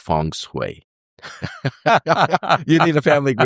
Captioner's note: laughter